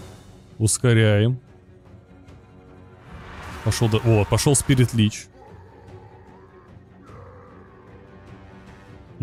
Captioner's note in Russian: стон